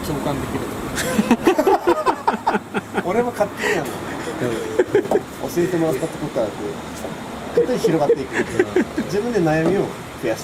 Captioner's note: laughs